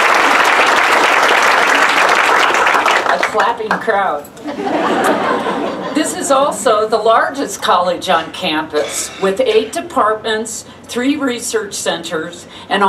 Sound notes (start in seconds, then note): 4.4 laughter